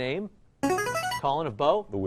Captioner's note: chiming